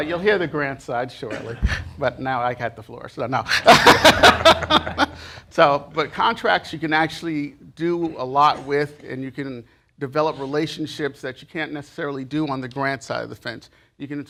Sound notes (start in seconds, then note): 3.5 laughter